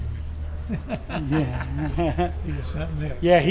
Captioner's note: both laughing